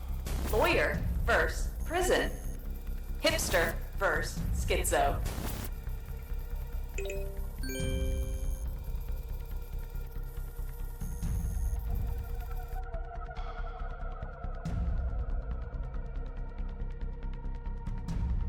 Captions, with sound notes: lawyer versus prison hipster versus schizo [ding, chime] [Suspenseful music]